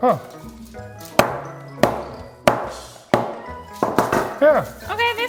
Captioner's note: hammer banging